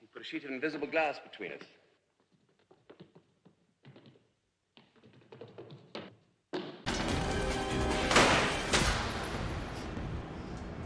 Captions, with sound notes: A sheet of invisible glass between us. [Feet tapping] [Gunshot] [Thud] Hm.